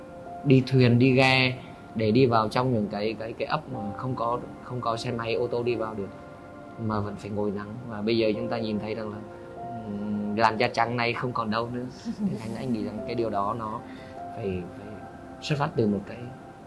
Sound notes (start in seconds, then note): 12.0 laugh